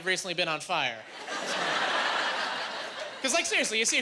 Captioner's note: laughing